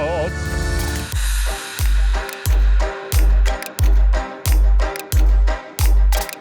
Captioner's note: upbeat music; thunder droning